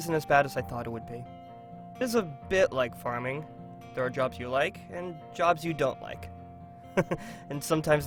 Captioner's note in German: lacht